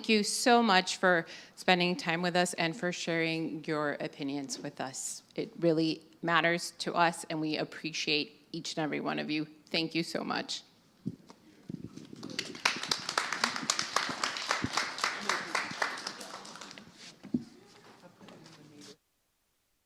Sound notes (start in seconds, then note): 9.9 applause